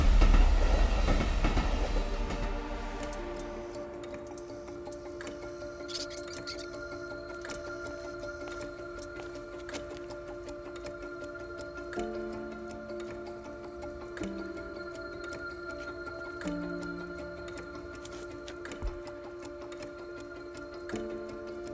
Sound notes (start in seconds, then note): 2.4 electronic buzzing; 21.5 chewing sound